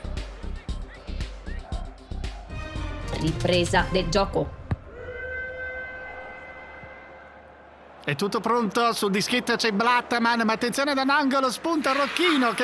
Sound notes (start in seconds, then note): 4.6 starting whistle